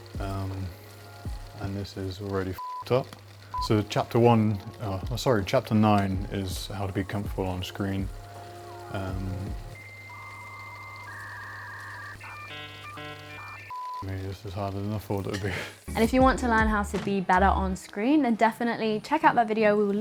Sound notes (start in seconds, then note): 2.6 beep; 8.0 dial-up internet tones; 14.1 beep